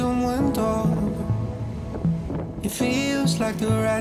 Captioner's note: wind blowing